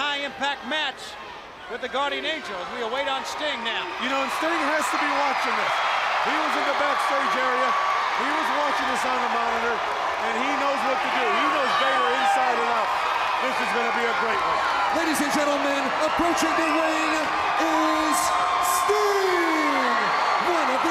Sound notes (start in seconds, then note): 14.7 crowd cheering